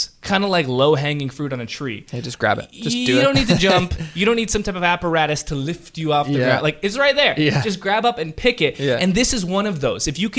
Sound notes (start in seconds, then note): 2.8 laughs